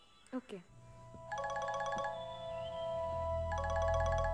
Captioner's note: Cell phone ringing